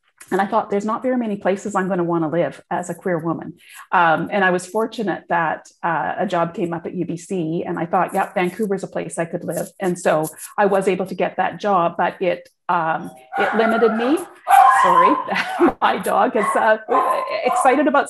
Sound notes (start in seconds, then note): 14.1 dog barking